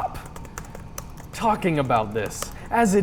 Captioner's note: clicking, typing hard